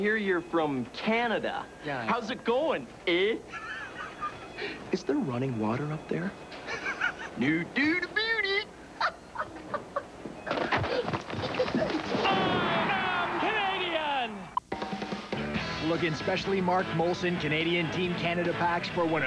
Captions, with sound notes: SO, I HR YOU'RE FROM... ...CANADA. HOW'S IT GOING... EH? IS THERE RUNNING WATER UP THERE? NO DOOT ABOOT IT. (LAUGHING)